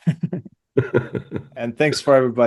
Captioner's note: laughs